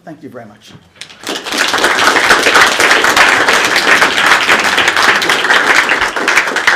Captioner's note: applause